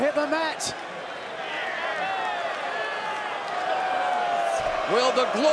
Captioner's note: crowd cheering